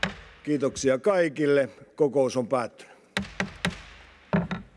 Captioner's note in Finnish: kopauttaa nuijaa